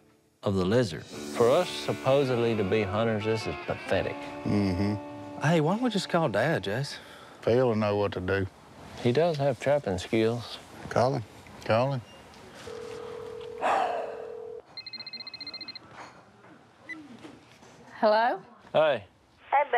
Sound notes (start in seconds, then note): 12.6 phone ringing; 12.8 sighs; 14.3 phone ringing; 18.4 on phone